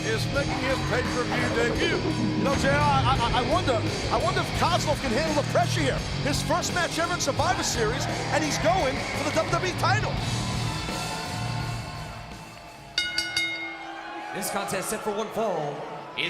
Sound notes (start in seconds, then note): 10.5 intense rock music; 12.9 bell ringing